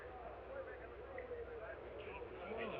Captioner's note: all chattering; crowd muttering